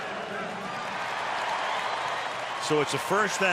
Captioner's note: cheering; pa announcement